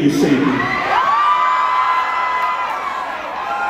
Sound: cheering

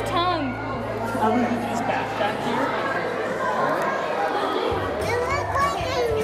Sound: loud background chatter

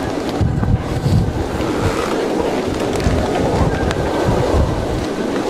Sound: howling wind

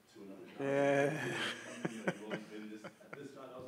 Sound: laughs

